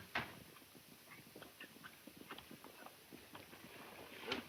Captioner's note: horses galloping